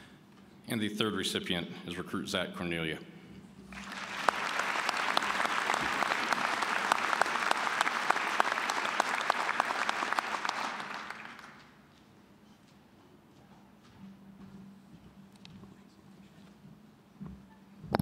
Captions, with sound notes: >> And the third recipient is Recruit Zach Kornoelje. (applause)